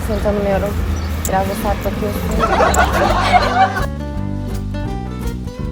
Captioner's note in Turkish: kahkaha